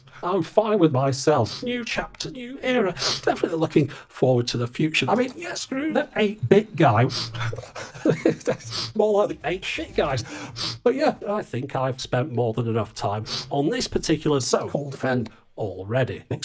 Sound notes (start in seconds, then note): 7.1 giggles